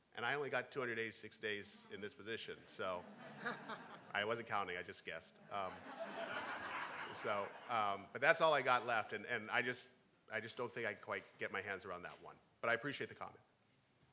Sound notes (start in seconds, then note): 3.0 crowd; 3.0 laughing; 5.5 laughing; 5.5 crowd